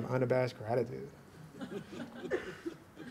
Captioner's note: laughter